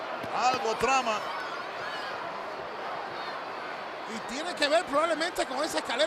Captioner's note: applause